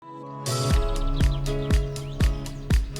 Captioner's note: upbeat music; birdsong